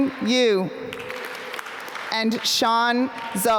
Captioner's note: applause